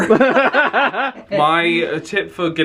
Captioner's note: they laugh